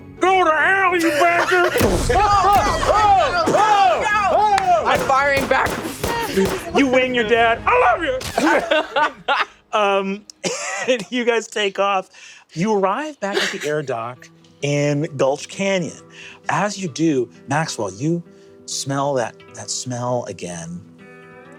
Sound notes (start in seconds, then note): 5.8 gun booming; 8.2 laughing; 8.5 bullets pinging